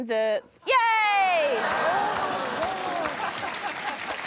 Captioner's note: applause